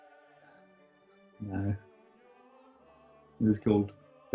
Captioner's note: quietly